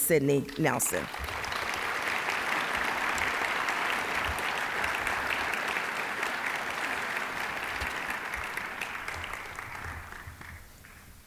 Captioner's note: applause